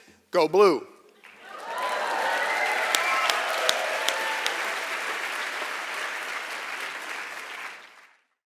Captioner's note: applause